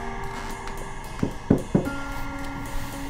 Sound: knock

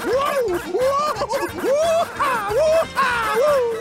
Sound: cheering

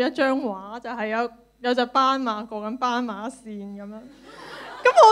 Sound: laughter

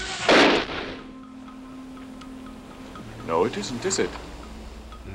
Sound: shotgun blast

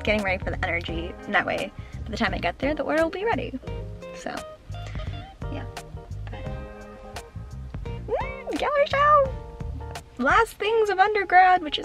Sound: excited squeal

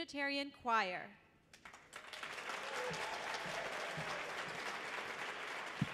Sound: audience applauds

